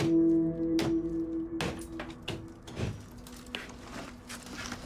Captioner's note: hammer thudding